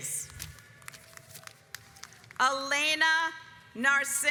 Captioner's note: audience applauds